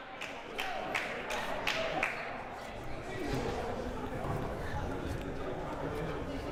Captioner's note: crowd applauding and murmuring